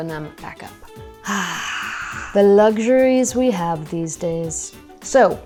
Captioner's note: sighs